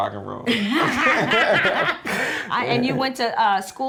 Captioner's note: laughter